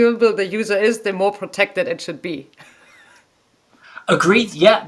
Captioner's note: chuckles